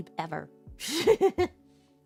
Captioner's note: giggle